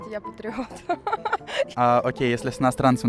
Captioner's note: laughter